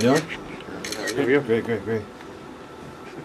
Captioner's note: murmurs from reporters